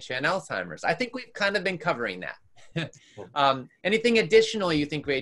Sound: laughs

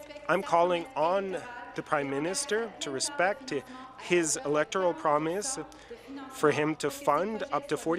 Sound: speaking in French

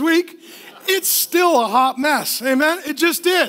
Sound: laughing

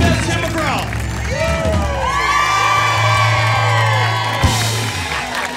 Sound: crowd cheers; cheers; laughs

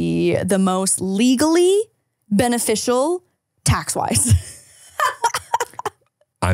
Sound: laughing

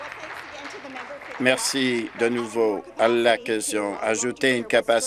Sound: applause

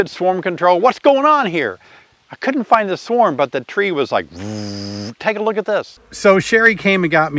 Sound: buzzing

